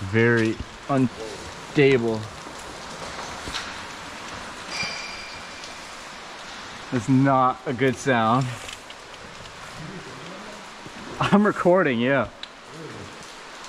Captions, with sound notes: very unstable (metal ringing) that's not a good sound i'm recording yeah